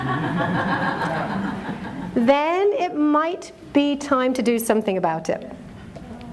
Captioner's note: laughter